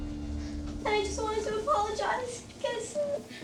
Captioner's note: tearfully